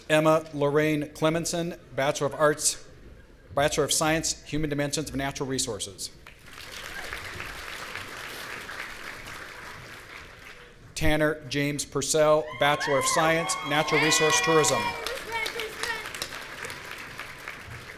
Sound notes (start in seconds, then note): 6.4 audience applauding; 16.0 audience cheering